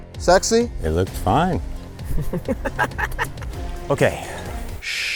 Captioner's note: laughs